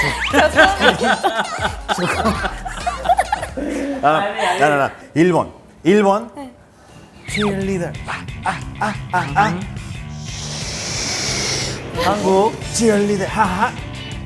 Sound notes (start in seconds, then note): 8.0 huff huff